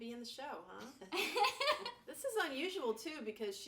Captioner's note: laughing